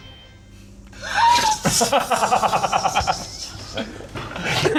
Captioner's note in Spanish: Suspiro; Risas